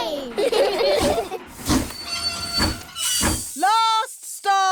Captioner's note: train chugs; laugh